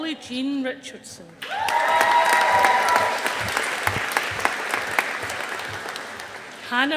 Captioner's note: audience applauding